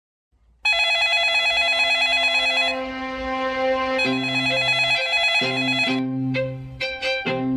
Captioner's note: phone rings